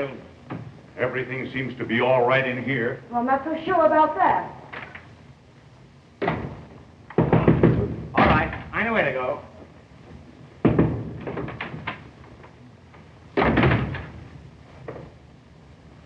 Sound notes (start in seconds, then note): 7.1 knocking on door